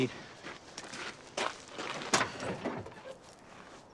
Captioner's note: birds chirping